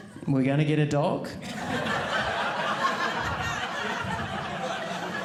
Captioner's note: audience laughing